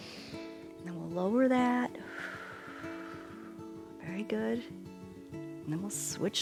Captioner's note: exhales